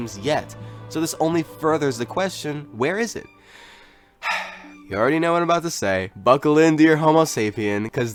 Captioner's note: sighs